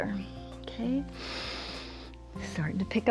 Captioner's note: inhales